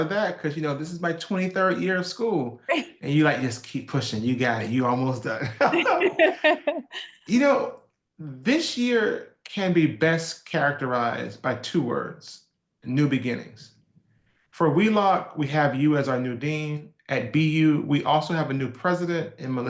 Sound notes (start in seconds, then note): 5.4 laugh